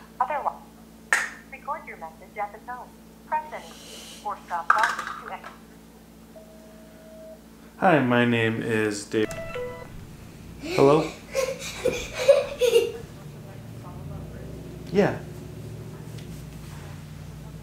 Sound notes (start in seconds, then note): 12.2 child laughing